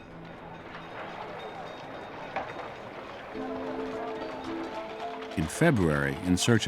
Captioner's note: carriages rattling, trolley bells ringing